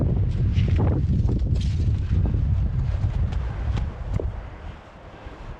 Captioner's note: wind